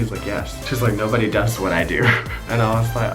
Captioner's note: laughs